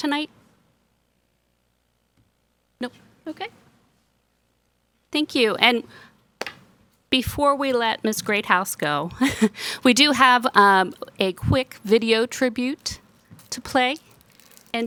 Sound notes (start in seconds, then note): 9.0 chuckles